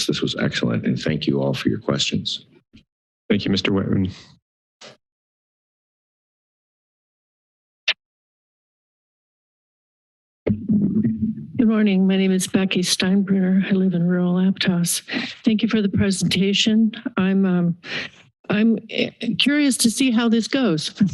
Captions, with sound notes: This was excellent and thank you all for your questions. - Thank you, Mr. Whitman. [silence] [mic noises] - Good Morning, my name is Becky Steinbruner. I live in rural Aptos. Thank you for the presentation. I'm, uh... I'm curious to see how this goes.